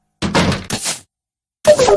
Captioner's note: the door closed again with a thump